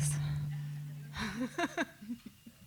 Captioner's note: chuckles